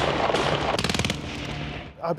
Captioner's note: machine gun blasts; gun blasts